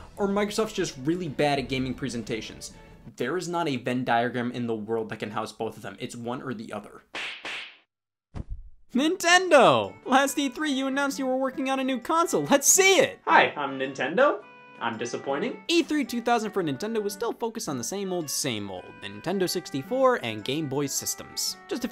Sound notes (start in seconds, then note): 8.3 knee slapping